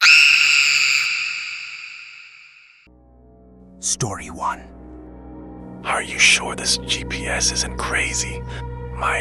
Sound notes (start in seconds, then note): 0.0 screaming